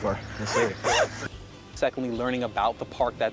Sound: zipper scraping

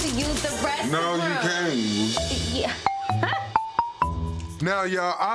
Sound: laughs

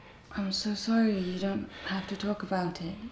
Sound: none

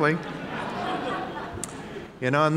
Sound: audience laughing

